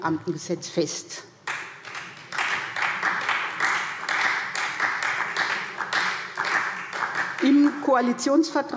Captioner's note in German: Beifall SPD